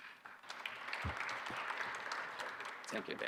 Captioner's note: audience applauding